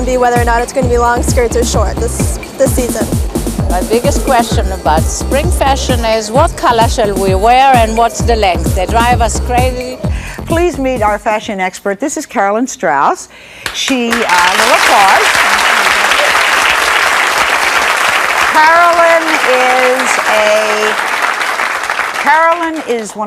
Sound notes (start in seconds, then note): 16.1 audience clapping